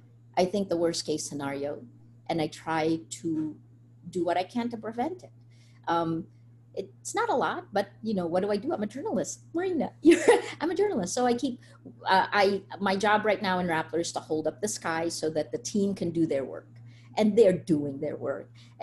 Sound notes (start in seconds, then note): 9.8 laughs